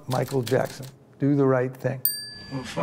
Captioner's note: bell dings